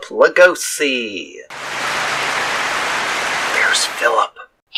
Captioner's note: clapping